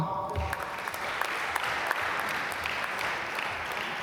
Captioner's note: applause